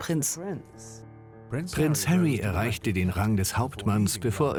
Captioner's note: voiceover